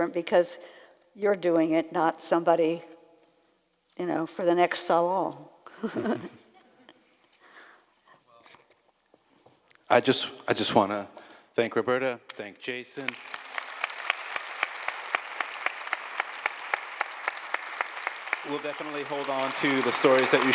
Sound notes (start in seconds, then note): 6.2 laughs; 13.0 audience applauds